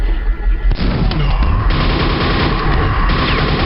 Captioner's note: Nailgun firing, Shambler and Scrag attack noises